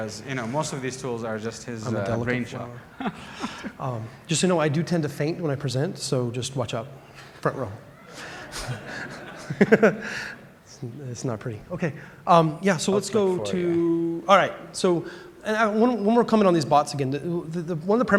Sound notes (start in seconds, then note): 8.1 laughter